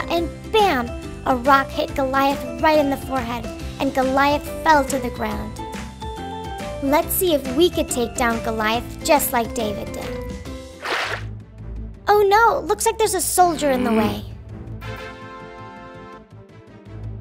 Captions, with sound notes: and, bam, a rock hit Goliath right in the forehead, and Goliath fell to the ground. Let's see if we can take down Goliath just like David did. (water sloshing) (suspenseful music) Oh no, looks like there's a solider in the way.